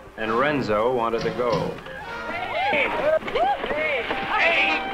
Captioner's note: everyone exclaiming